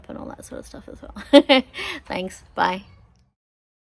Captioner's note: laughs